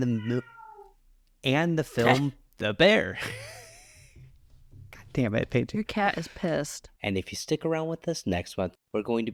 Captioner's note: meow